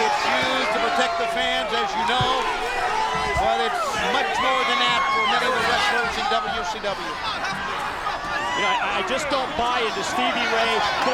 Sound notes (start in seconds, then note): 0.0 spectators cheering; 4.6 spectators cheering